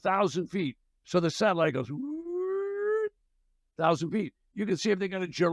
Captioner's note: hoots